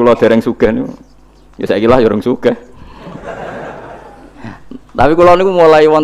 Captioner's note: laughs